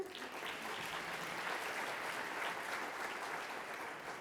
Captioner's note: audience applauding